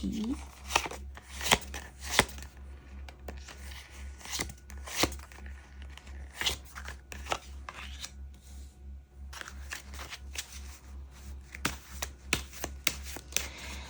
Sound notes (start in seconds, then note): 1.6 drawing cards